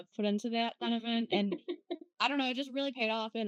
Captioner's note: laughing